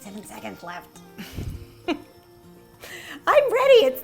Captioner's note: giggling